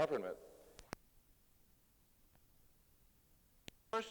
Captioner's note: silence